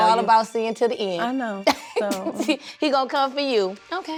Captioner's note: laughs